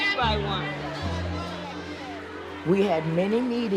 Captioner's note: audience clamoring